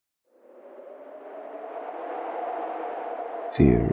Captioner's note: wind Howling